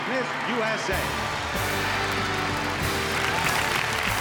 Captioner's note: audience cheers and applauds; triumphant music